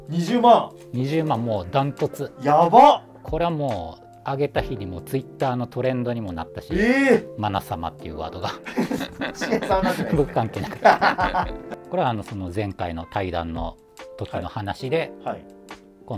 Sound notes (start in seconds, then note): 8.4 laughing